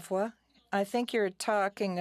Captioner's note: speaking French